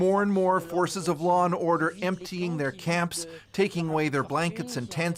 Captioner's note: speaking French